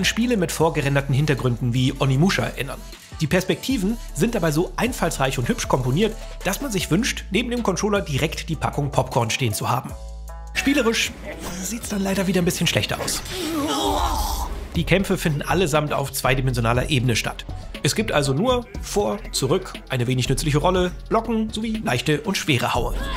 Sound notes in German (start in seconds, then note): 13.3 Schmerzenslaute